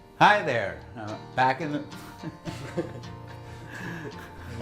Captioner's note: laughs